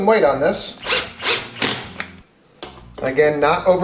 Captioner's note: drill turning